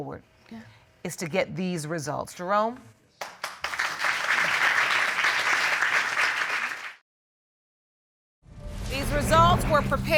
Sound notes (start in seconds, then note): 3.2 audience applauding